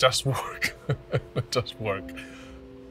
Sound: chuckles

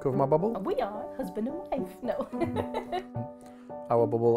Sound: laughs

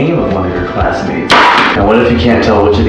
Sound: loud bang

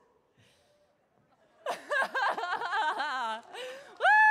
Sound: audience laughs; audience claps

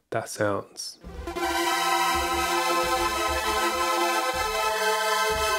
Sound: bright spacey sounds

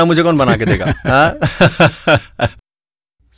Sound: laughs

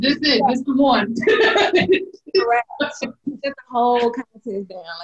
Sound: laughing loudly

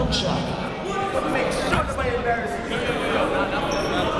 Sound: chatter

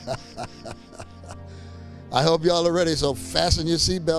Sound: chuckling

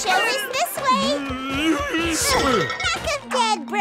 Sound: groaning

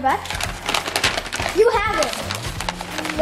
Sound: paper crinkling

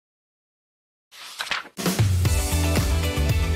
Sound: typewriter; page flips; theme Music

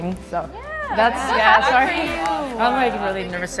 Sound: supportive chatter

